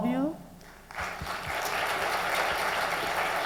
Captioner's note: applause